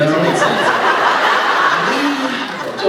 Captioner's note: laughs